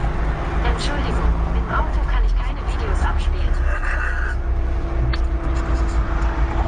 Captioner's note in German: lachen